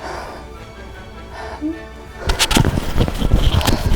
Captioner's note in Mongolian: уйлах